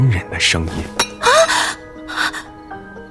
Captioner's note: clanging metal sound; He Yiyao gasps